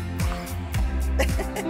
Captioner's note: sighs; laugh